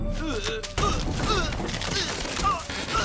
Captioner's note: geoff groaning